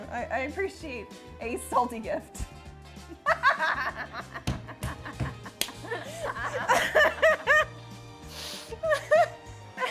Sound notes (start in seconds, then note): 3.2 laugh